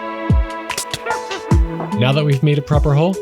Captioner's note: witch Laughs